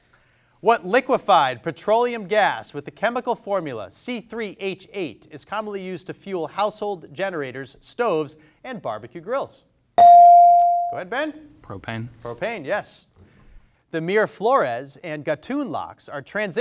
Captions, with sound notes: What liquified petroleum gas with the chemical formula C3H8 is commonly used to fuel household generators, stoves, and barbecue grills. (bell dings) Go ahead, Ben. - Propane? - Propane, yes. The Miraflores and Gatun locks are transition points